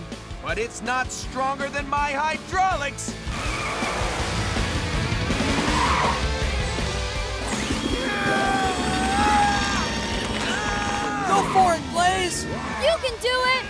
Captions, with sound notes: but it's not stronger than my hydraulics. [grunting] -Go for it Blaze! -You can do it!